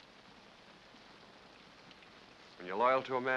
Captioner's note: rain patters